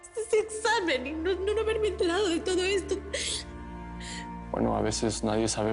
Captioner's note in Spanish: Solloza